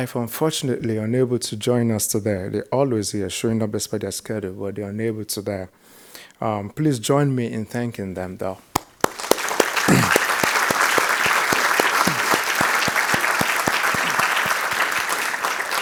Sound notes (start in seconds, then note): 9.0 crowd applauding